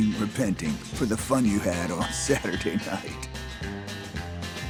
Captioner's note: laughs